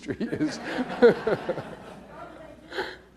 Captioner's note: laughs